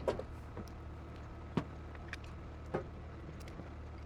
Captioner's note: tank engine idles